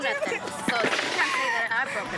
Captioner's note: sobbing